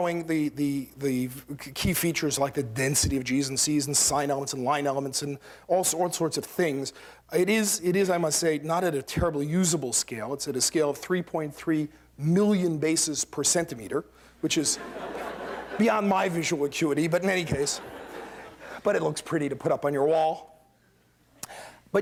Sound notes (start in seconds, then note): 14.6 laughter